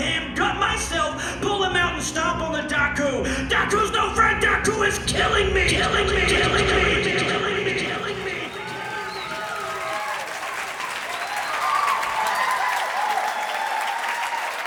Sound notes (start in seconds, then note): 6.6 "killing me" echoes; 9.4 crowd cheers